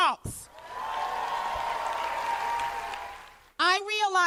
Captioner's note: cheers and applause